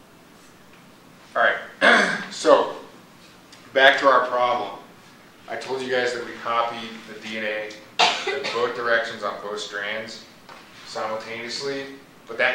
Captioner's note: clears throat